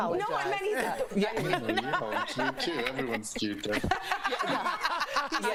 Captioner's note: laughter